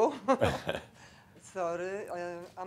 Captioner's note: she chuckles